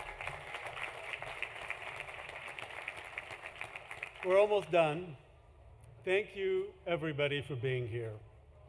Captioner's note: cheering; applause